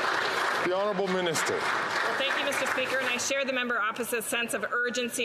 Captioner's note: some Applause